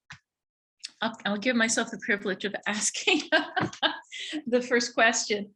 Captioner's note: laughs